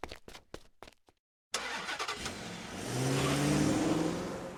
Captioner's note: car engine starts and drives away quickly